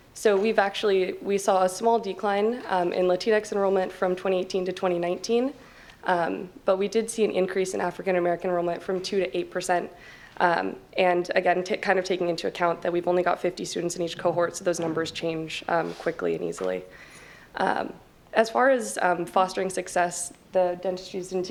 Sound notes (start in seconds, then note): none